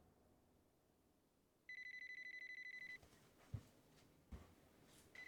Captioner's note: phone ringing